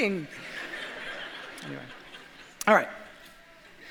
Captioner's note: audience laughs